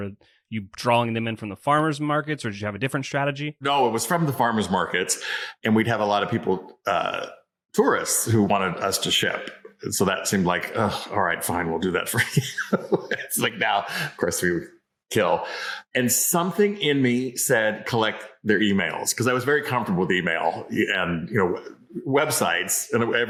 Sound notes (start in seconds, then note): 11.8 laughs